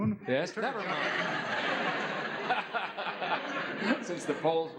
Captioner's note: laughs